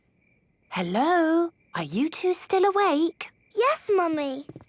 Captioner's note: whisper